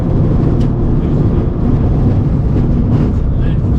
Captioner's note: engine rumbling